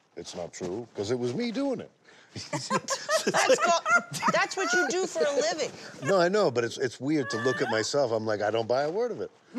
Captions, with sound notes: it's not true 'cause it was me doing it. (LAUGHTER) That's what you do for a living. No, I know, but it's weird to look at myself. I'm like, I don't buy a word of it.